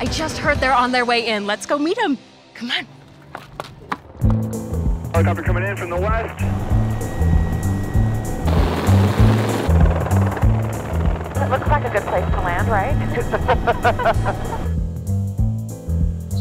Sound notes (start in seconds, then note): 7.5 helicopter blades whirring; 13.0 laughter